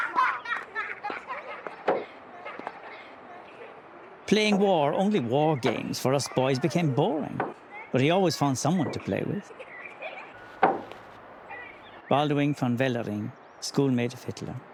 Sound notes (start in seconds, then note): 0.1 children laughs; 1.8 thuds